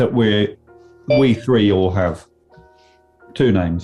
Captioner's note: iPHONE ALERT TONE